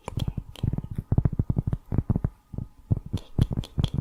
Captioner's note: tapping on cork